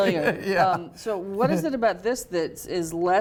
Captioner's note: laughs